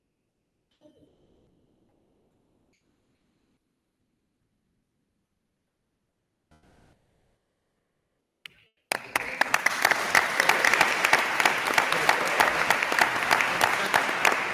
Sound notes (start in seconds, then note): 8.9 attendees applauding